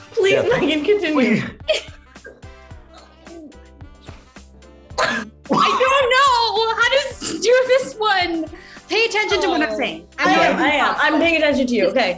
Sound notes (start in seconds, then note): 1.0 laughing; 3.2 upbeat music; 5.5 Maitreyi laughing